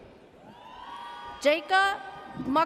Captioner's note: audience cheers